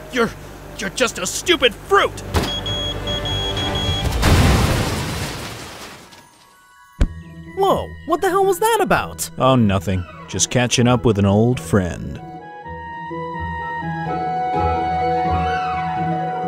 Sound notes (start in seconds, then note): 2.3 bomb beeping; 4.0 explosion booming; 6.7 upbeat calm music; 12.5 upbeat orchestral music